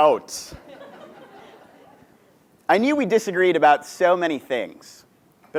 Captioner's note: laugh